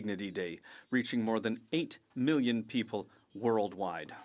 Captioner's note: speaking French